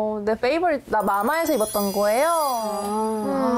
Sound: using this time to brag sound effect

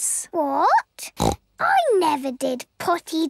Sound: snorts

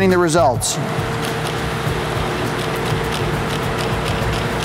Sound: printing sounds

